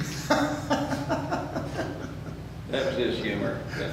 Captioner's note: laughs